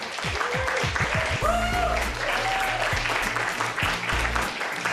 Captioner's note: cheers and applause